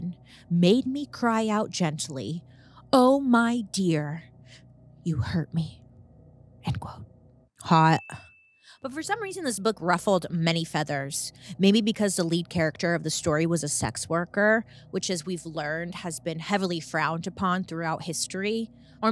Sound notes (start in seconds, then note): 7.7 bell rings